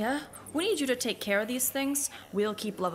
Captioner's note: sotto voce